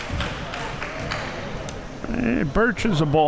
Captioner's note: crowd applauding